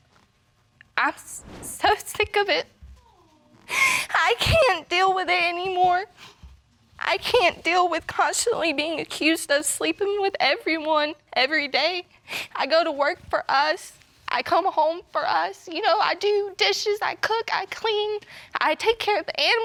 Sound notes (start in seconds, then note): 0.3 voice breaking; 3.0 sobbing